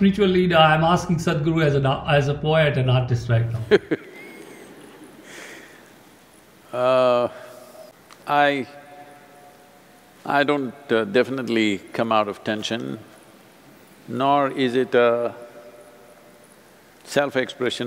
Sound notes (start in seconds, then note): 3.6 laughs